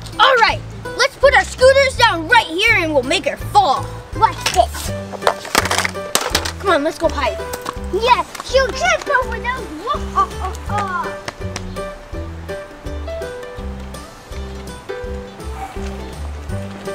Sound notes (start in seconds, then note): 9.8 Smalls laughing; 12.4 chill music